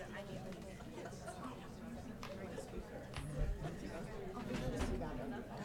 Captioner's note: people chattering